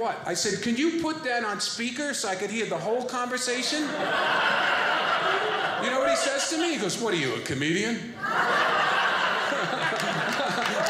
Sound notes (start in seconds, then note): 3.6 audience laughing